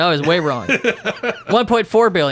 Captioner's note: laughing